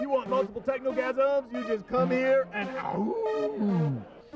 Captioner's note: howling